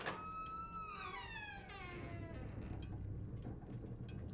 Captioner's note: door squeaks